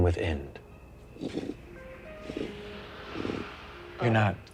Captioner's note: imitates flame whooshing